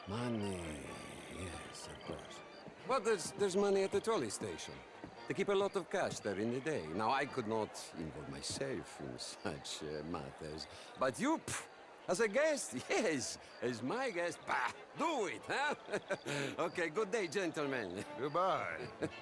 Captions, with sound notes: Money.. yes, of course. Well, there’s.. there’s money at the trolley station. They keep a lot of cash there in the day. Now I could not.. involve myself in such.. matters... ...but YOU? Phh... ...as a guest? Yes! As my guest, bah! DO IT, huh? (laughs) Okay, good day gentlemen! Goodbye.